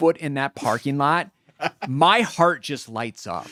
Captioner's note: laughing